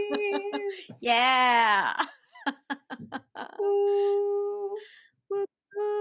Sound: laughter

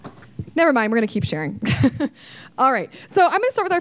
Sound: laughing

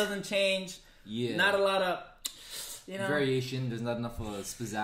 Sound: none

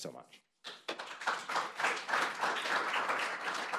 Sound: applause

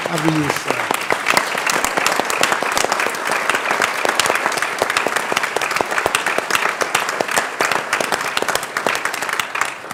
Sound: applause

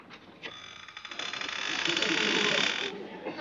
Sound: creaking

